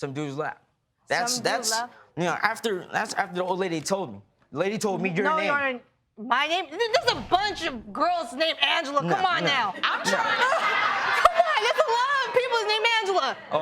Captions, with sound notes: Some dude's lap. That's... You know, that's after the old lady told me. The lady told me your name. No... My name? There's a bunch of girls named Angela! Come on now! (LAUGHTER) Come on, there's a lot of people named Angela.